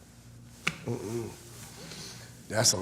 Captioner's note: sounds of disapproval